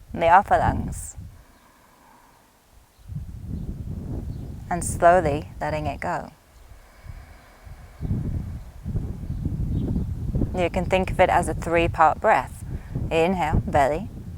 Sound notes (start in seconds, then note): 1.3 inhales deeply; 6.7 exhales deeply